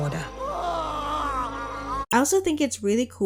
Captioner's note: Vaublanc screaming